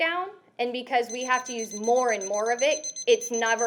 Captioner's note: beeping sounds